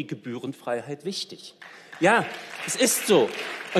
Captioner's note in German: Beifall